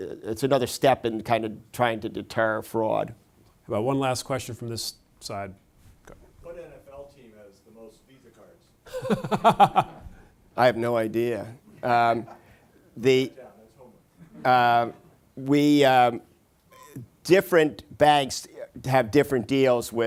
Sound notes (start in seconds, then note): 8.8 laughter